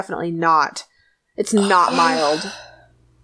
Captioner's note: sighs